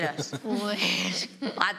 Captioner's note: laughs